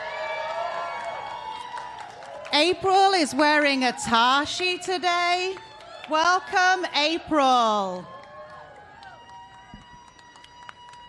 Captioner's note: applause